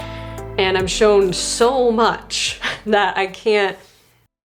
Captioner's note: chuckles